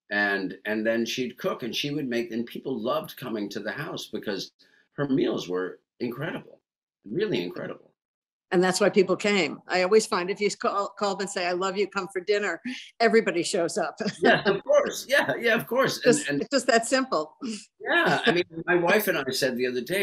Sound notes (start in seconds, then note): 14.0 laughs